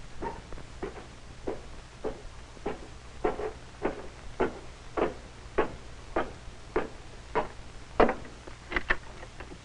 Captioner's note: cartoonishly heavy footsteps; latch opening